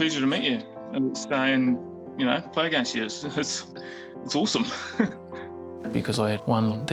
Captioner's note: chuckles